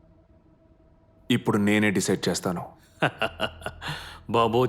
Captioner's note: kurup chuckles